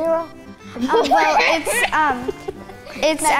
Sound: laughing

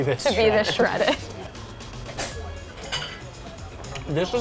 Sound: laughing

